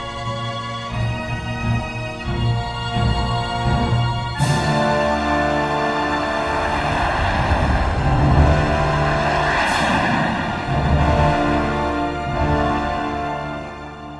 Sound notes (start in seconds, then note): 6.3 jet engines roaring